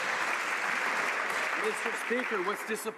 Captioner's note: some Applause